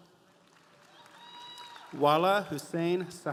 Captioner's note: audience applauding